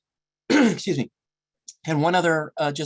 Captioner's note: clears throat